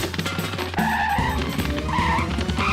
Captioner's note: shoes screeching